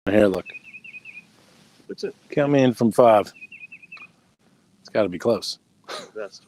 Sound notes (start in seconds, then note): 0.1 bird chirping; 5.8 chuckles